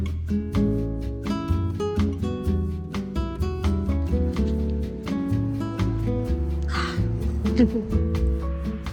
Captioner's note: soft music; laughing